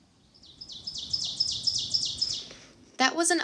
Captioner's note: Ovenbird singing